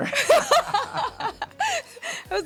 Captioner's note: laughing